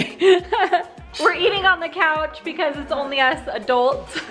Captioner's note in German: lacht